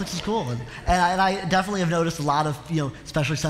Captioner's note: laughter